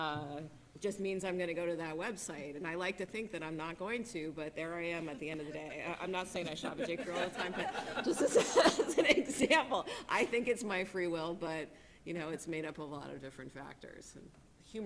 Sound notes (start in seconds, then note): 9.4 laughing